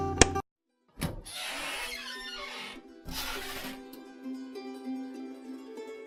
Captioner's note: cupboard squeaking